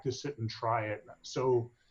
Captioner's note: faintly speaking